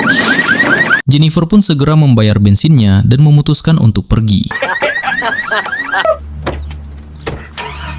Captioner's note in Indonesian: tertawa